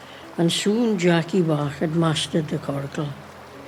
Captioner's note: none